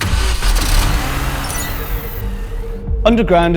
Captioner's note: car Engine Starting